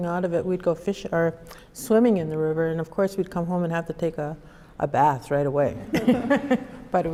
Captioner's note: laughter